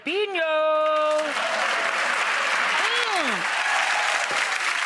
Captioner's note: cheering